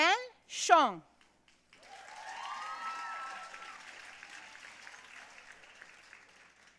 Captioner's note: audience cheering and applauding